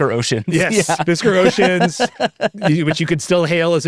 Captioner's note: laughing